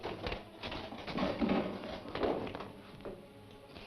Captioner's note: tools clank